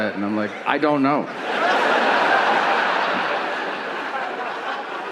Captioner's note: audience laughing